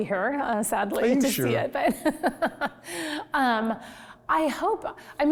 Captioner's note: laughs